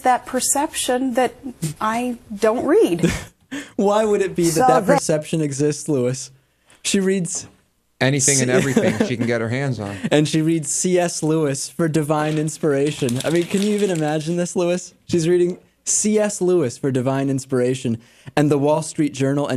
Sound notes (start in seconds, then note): 8.4 laughs